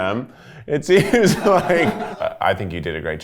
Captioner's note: everyone laughs